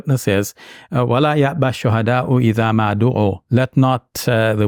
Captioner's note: speaks in Arabic language